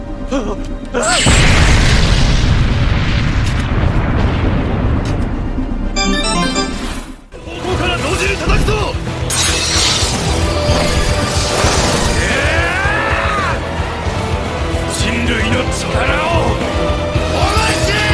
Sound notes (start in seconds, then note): 0.3 man crying in fear; 1.1 explosion; 5.9 game Victory sound effect; 7.3 man saying loudly; 7.6 metal striking; 12.2 man yelling